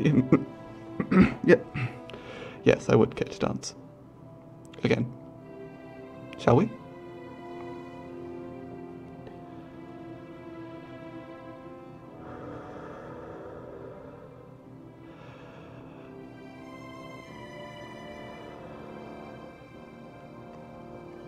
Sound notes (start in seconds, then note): 1.1 clears throat; 6.9 slow breathing, dancing